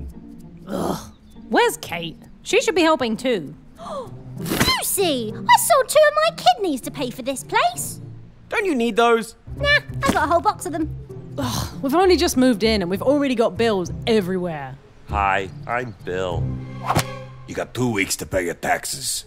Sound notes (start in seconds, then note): 3.8 quiet gasp; 11.3 Lucy, sighing